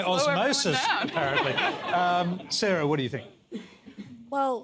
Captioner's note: laughter